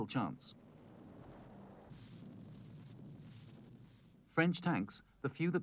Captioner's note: ground exploding